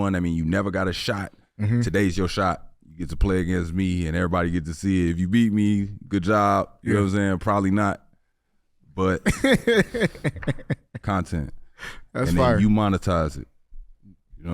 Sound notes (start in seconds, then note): 9.2 HaHa laughs